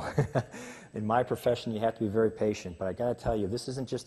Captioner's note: laughs